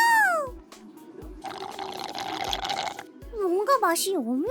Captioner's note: slurping drink